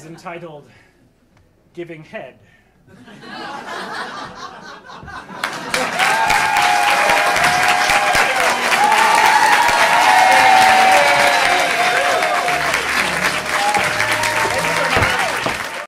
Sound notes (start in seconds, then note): 2.9 audience laughing; 6.2 audience applauding